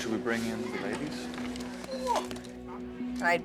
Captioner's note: grunting